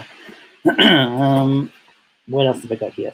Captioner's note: clears throat